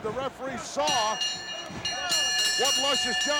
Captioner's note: bell ringing